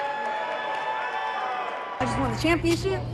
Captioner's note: audience cheering